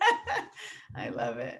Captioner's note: laughing